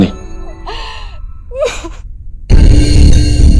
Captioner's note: Bani crying